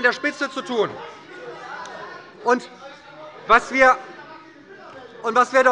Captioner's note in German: Lebhafte Zurufe – Glockenzeichen des Präsidenten